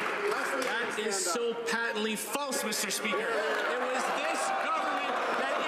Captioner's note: some Applause